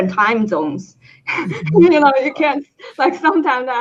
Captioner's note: chuckling